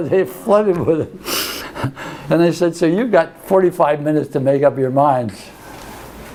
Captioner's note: laughs